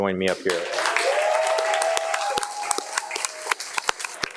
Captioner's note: audience applauding